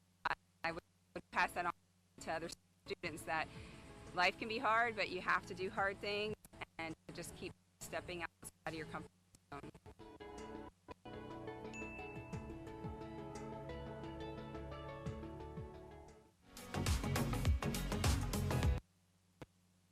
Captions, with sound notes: That life can be hard, but you have to do hard things, and just keep stepping outside of your comfort zone. (upbeat music) (bell dinging) (upbeat music)